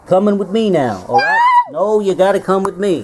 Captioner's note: neigh